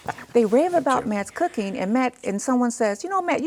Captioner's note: laughs